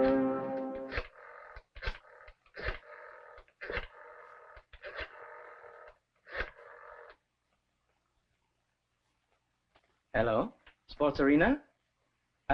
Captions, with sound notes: (phone dial cranking) - Hello, Sports Arena?